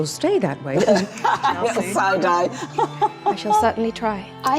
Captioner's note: laughing